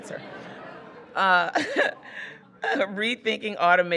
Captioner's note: audience laughing